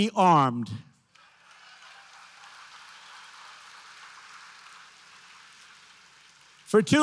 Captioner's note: applause